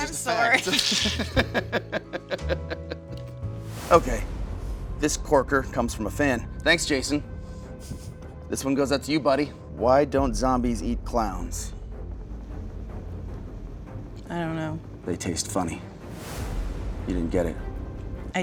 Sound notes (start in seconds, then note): 0.5 both laughing